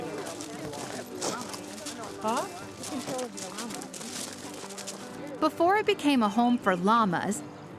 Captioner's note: intermittent chatter